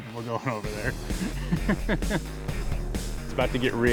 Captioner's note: laughs